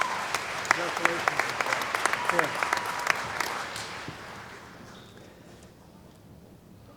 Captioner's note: cheering & Applause